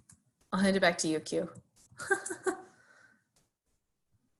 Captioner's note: laughs